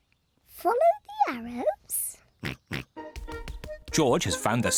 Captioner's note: oinks